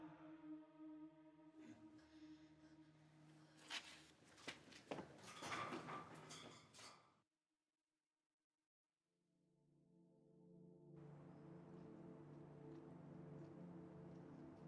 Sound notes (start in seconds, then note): 6.1 footsteps running; 10.1 gentle melodic music